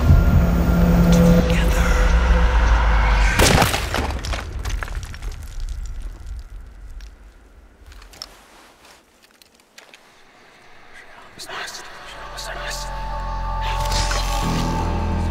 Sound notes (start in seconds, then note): 3.3 gunshot booms; 9.7 wind whistling; 10.3 ghostly voice whispering; 12.4 dramatic music